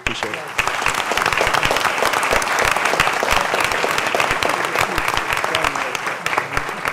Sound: applause

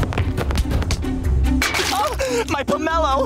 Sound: gasping

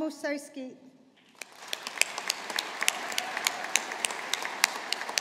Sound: audience applauding

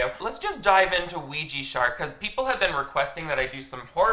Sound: none

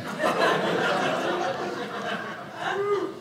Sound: audience laughing

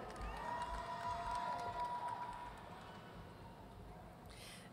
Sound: audience cheering

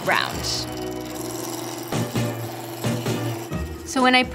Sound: wood scraping

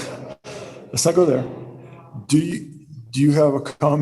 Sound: laughter; chuckling

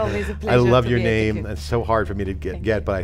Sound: laughs

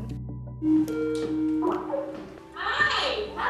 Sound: log on beeping

